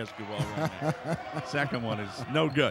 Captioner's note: laughing